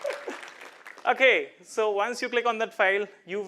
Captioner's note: applause